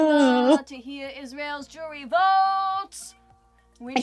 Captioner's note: Sketch audio plays